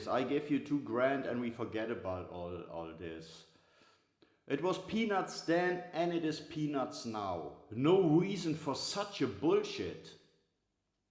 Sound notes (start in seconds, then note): none